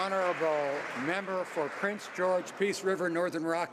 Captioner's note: some Applause